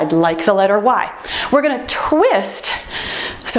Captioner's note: timer beeps